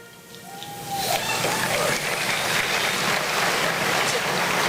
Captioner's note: applause